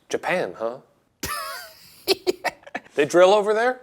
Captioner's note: Ryan laughs